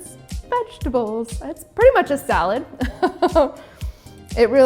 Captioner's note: chuckles